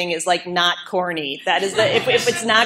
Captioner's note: laughter